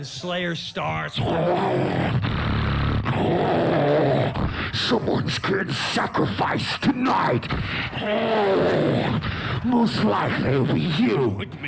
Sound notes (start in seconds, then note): 0.9 mimics heavy metal; 7.8 roars